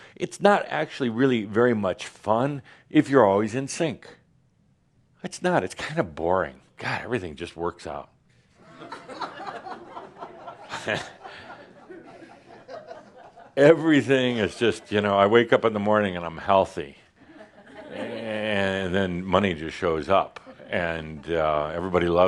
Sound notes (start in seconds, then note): 10.3 some chuckles